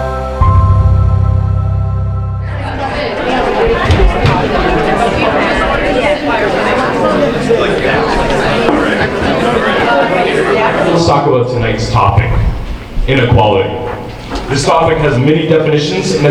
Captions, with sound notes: (audience murmuring) - Let's talk about tonight's topic, inequality. This topic has many definitions,